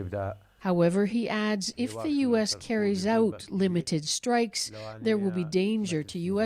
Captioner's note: speaking alternate language